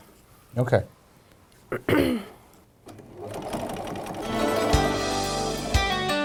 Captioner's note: sound of sewing machine